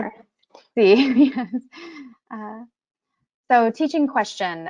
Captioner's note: laughs